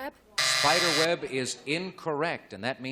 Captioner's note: buzzer